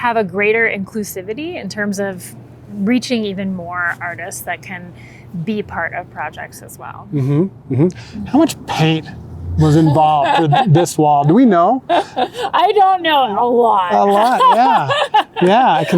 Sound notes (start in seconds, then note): 9.6 laughing